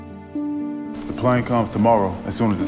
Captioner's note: voiceover